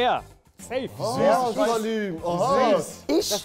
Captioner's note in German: Stimmengewirr